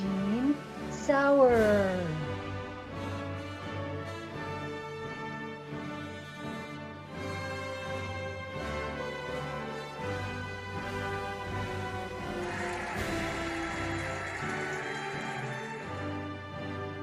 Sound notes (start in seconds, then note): 4.0 cheerful music; 11.2 cheering and applauding